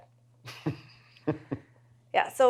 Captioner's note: laughs